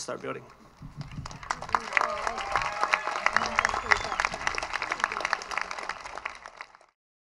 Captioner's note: cheers and applause